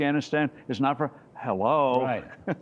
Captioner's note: laughter